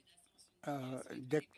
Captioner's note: speaking French